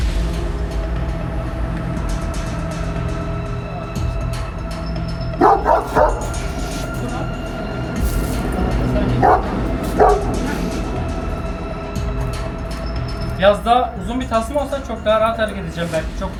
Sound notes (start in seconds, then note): 0.1 suspenseful music; 5.4 barking sounds and suspenseful music